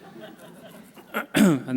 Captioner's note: laughter